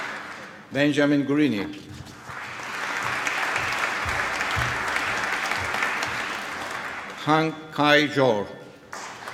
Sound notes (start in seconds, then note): 2.2 applause; 8.9 applause